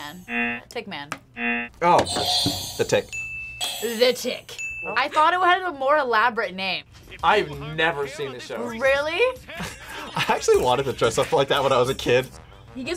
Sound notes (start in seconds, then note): 0.2 buzzer rings; 3.0 bell rings